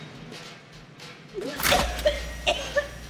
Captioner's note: coughing